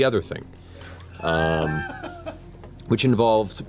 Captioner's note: laughter